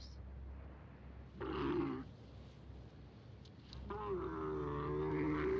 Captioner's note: camel groaning